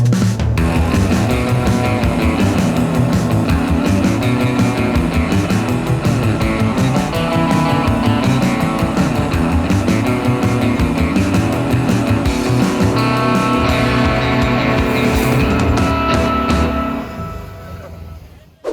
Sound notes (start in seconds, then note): 0.2 energetic bass music; 1.3 boat engine roars